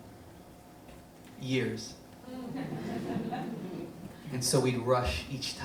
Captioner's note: audience laughs